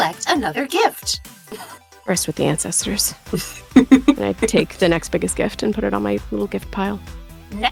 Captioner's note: chuckles